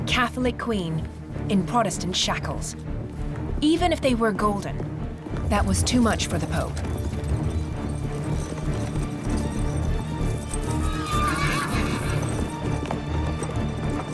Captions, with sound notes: A catholic queen in Protestant shackles: even if they were golden, that was too much for the Pope. [horse whinnies]